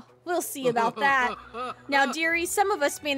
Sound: Ursula Laughs

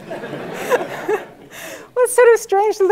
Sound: laugh

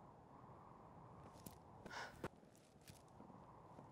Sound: wind whistles

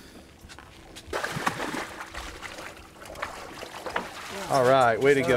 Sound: fish splashing

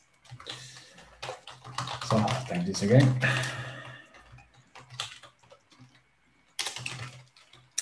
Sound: keyboard clattering

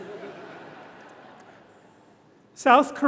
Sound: audience laughing

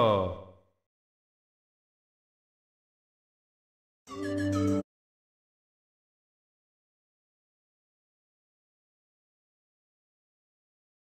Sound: very Quiet

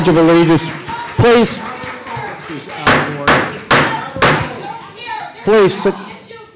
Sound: gavel

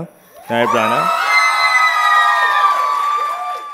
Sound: cheers

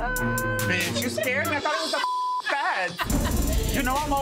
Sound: beep

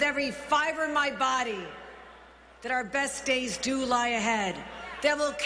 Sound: cheers and applause

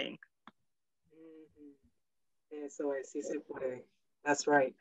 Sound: speaks in foreign language

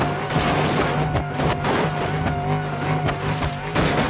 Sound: car crashing; engine whining

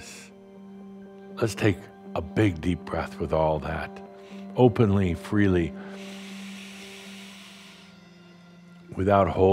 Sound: Adamus takes a deep breath

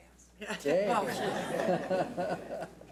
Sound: laughs

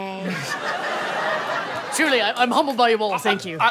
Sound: laughing

